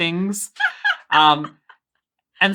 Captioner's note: laughing